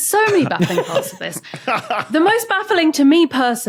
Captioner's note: laugh